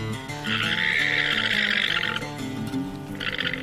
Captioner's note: bleating